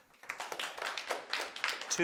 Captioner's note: audience applauding